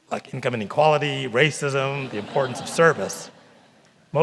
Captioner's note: laughter